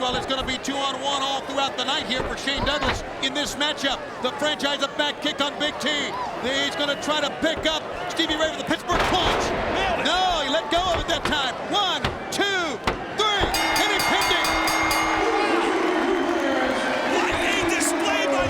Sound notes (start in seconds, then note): 13.5 bell rings